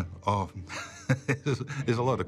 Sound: chuckling

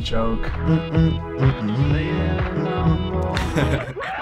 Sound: humming along to beat; laughing

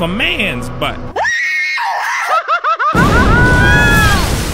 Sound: screaming like a real bitch

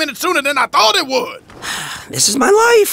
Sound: sighs

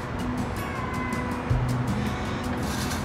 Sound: meows

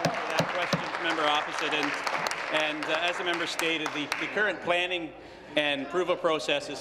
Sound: applause

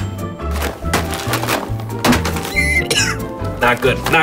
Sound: bag thuds; wheezes and coughs

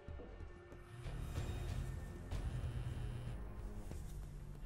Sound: cell phone buzzing

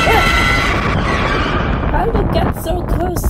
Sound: skidding

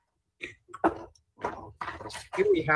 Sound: ~audio distortion~

